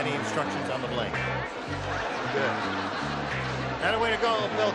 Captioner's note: laughter